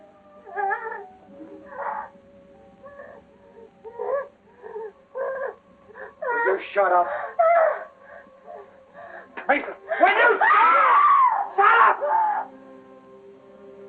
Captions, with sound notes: [Katie sobbing] Would you shut up? Mason! - Will you shut up? - [screaming] Shut up!